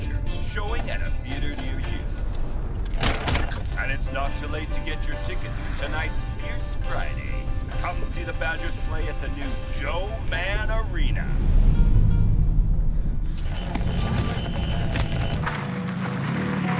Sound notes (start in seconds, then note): 5.0 radio static; 11.0 engine revving